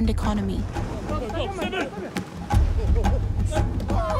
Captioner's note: people shout